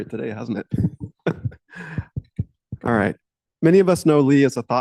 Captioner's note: laughs